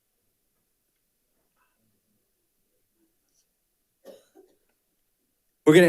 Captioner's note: panelist speaking faintly